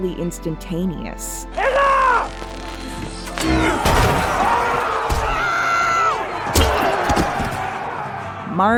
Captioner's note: everybody starts screaming